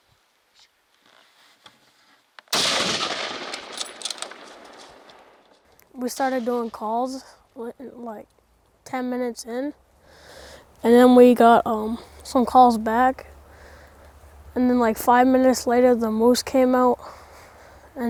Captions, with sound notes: (gun firing) - We started doing calls like 10 minutes in and then we got some calls back. And then like five minutes later the moose came out